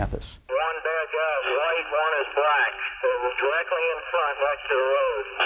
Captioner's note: radio transmissions